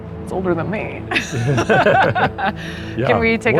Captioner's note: laughter